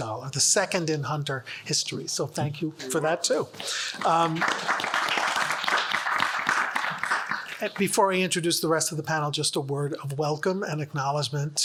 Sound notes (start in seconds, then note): 3.6 audience applauds